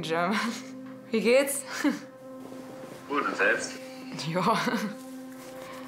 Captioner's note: speaking in foreign language